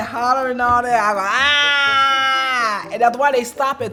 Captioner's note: loudly whines